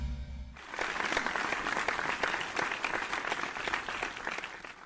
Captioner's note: audience applause